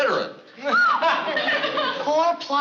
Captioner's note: whistles